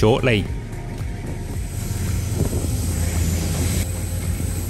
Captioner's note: wind blowing